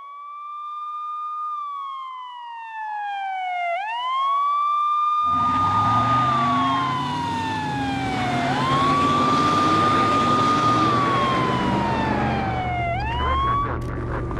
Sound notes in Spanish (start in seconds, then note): 3.8 sirenas de policía